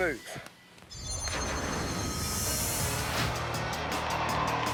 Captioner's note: air whooshing; rock music